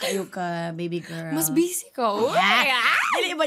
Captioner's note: chuckles; both exclaim